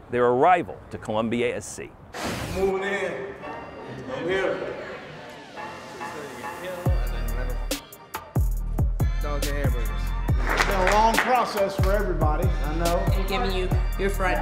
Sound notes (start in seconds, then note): 2.1 air rushes; 7.1 hip-hop music